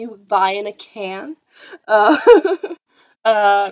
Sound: laughs

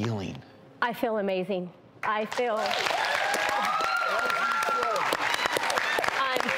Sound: applause and cheering

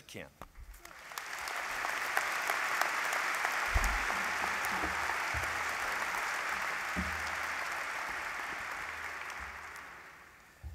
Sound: applause

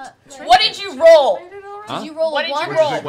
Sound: yells

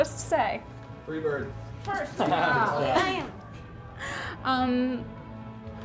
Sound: chattering

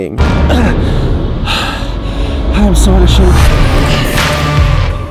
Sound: sighs

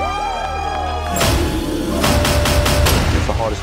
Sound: contestants cheering; intense music

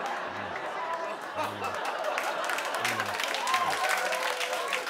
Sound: laughter

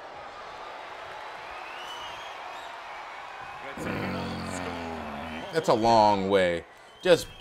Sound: applause

